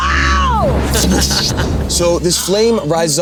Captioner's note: fire roaring